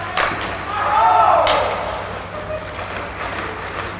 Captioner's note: team exclaiming; hockey sticks clattering